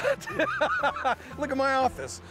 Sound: laughter

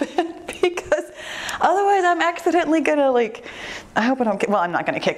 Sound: laughs

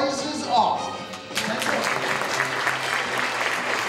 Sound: applause

